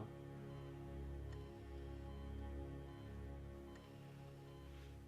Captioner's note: monitor beeping